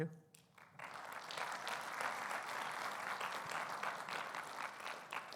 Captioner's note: audience applauding